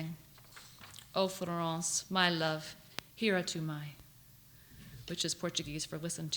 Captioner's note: non-english